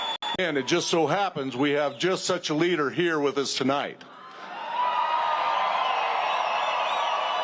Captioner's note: cheers and applause